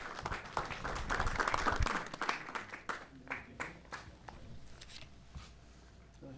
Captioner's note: applause